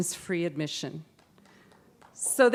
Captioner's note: applause